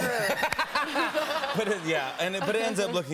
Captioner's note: laughter